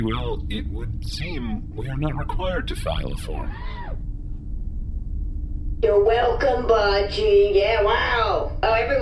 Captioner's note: sarcastically